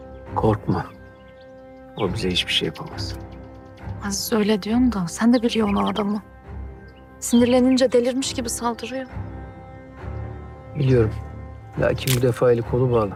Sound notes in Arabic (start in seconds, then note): 7.1 تعليق صوتي لإفنان